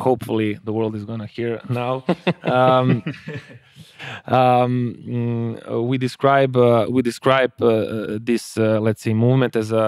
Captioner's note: laughs